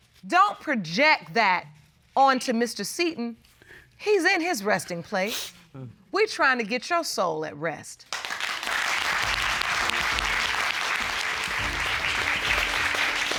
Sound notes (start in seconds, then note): 5.1 sniffles; 8.1 audience applauding